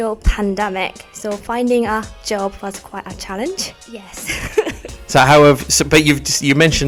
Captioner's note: laughs